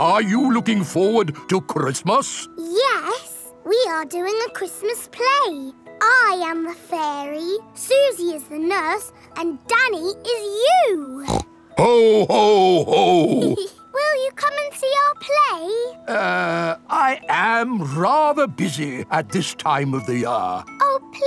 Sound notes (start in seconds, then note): 11.2 snorts; 11.8 giggles